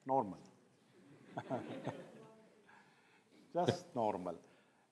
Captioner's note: laughs